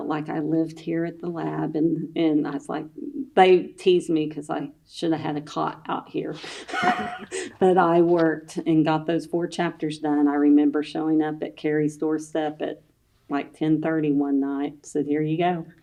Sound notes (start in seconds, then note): 6.4 laughs